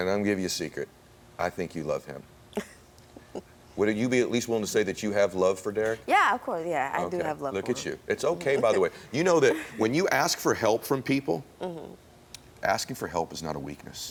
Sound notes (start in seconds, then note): 3.2 laughs